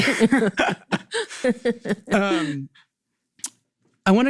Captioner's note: both laughing